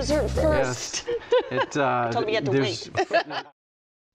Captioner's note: laughs